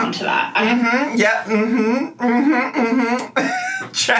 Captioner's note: hums